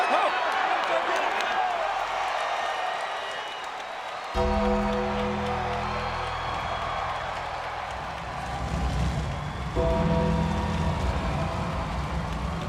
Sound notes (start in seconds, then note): 0.1 crowd cheers; 4.3 bell tolls; 4.5 crowd cheers; 8.3 thunder rumbles; 9.7 bell tolls